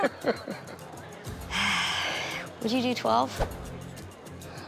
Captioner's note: laughs; sighs